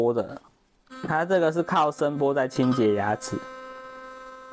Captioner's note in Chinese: 震動